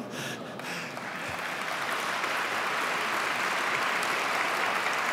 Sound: audience clapping

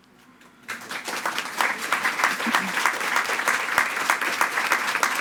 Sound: attendees clapping

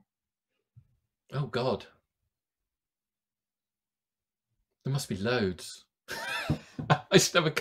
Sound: chuckles

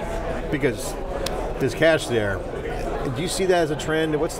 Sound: clap

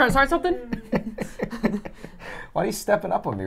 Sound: laughs

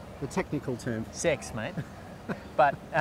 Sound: laughs

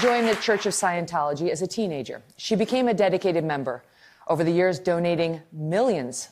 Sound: applause

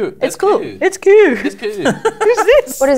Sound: laughter

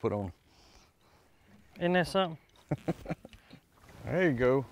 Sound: chuckles

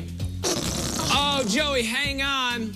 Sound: farting noise

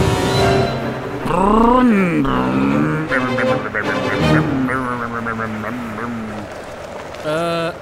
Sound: Matt making car noises

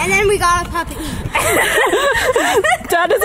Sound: laughing

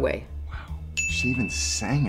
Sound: ding

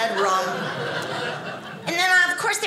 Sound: audience laughing

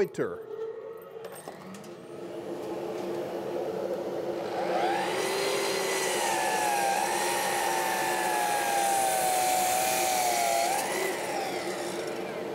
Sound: miter saw hums

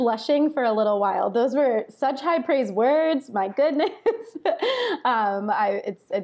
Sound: laughs

